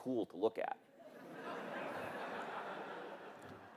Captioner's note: laughter